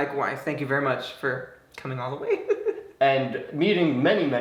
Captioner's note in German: lacht